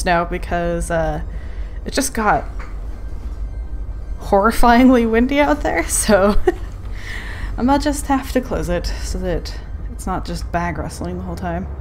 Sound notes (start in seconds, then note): 6.6 laughs